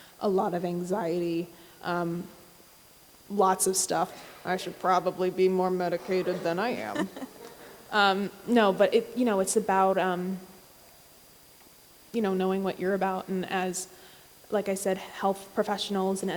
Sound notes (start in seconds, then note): 6.9 audience laughs